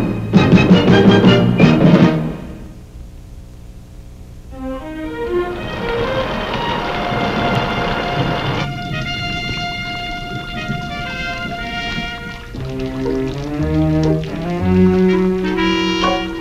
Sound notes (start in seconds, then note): 6.4 rain falling; 9.6 water dripping